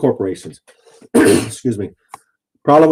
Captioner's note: clears throat